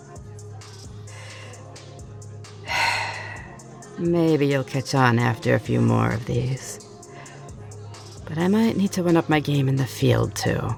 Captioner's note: sigh